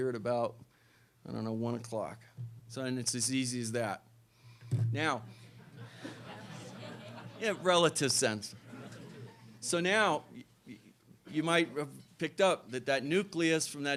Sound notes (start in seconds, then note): 5.5 laughter